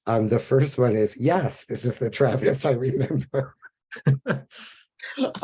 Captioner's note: laughs